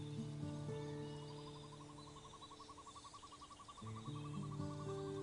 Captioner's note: bird warbling